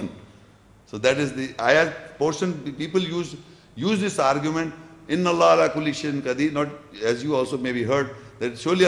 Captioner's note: Arabic